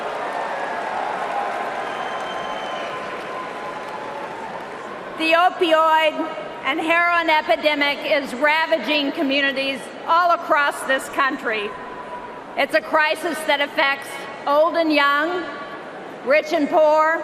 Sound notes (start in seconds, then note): 6.4 cheering and applause